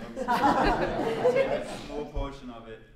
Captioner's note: laughter